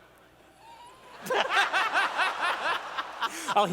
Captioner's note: laughter